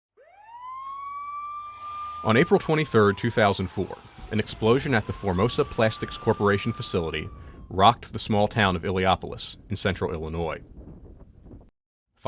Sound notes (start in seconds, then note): 0.7 sound of sirens